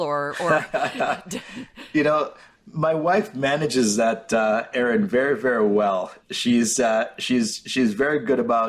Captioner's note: laughs